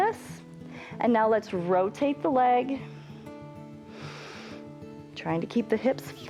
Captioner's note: inhales